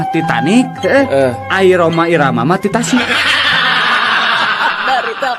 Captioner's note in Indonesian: tertawa